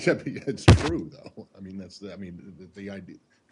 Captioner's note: laughter